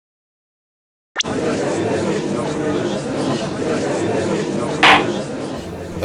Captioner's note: gallery chattering